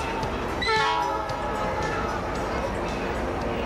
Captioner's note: train hoots